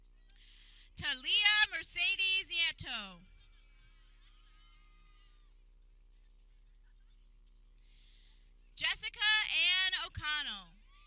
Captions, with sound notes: Talia Mercedes Nieto (people cheering) Jessica Ann O'Connell